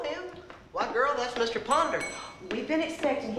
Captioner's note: rings bell